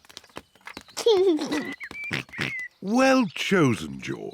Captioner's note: giggles